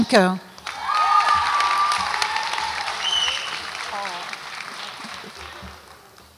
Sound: audience applauds and cheers

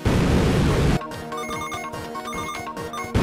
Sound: chiming

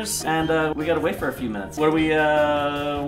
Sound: none

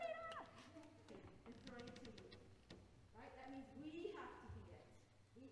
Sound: choir director speaking faintly

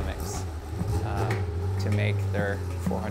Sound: car engine roars

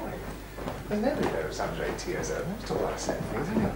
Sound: quiet chatter

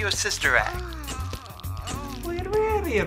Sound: moaning

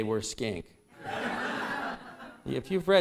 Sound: laughter

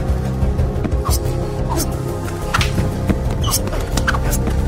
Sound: blade slashes

